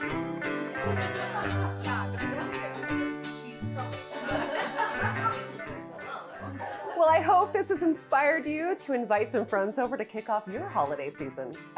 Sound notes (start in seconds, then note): 3.9 guests laughing